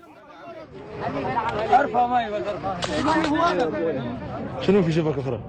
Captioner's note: Arabic spoken audio